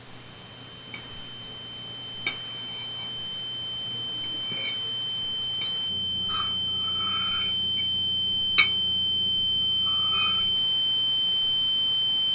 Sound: high pitched ringing sound

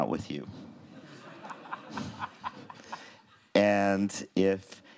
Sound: crowd laughing

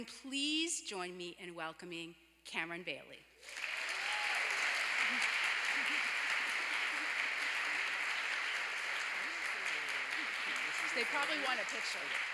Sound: applause

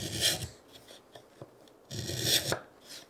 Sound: none

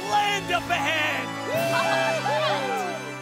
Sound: cheering

